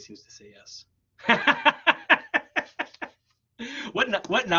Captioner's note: laughs